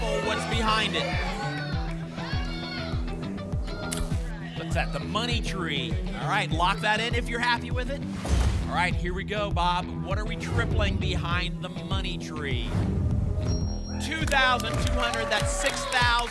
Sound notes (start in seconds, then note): 1.6 audience shouting icons; 12.7 whoosh